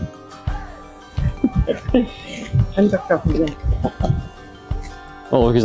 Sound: laughter

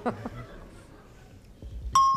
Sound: laughter; ding

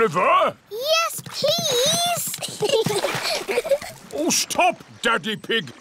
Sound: giggles

